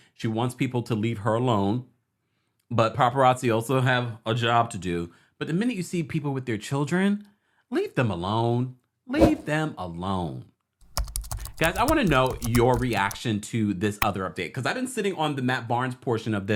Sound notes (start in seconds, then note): 9.2 logo whooshes; 10.8 keyboard typing